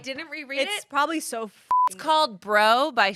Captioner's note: beep